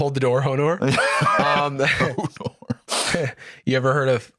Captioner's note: laughing